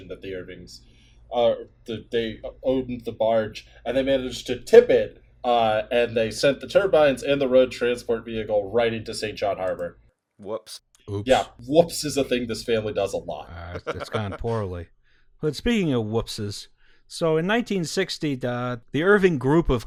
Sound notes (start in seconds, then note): 13.6 laughter